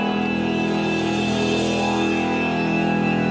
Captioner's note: thunder sound